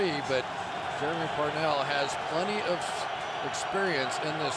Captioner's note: crowd cheering